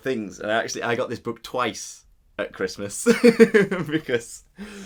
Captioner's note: laughs